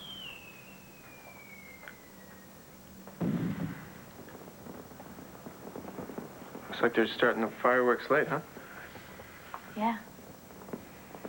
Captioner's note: fireworksxplode